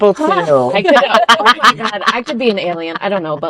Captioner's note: laughter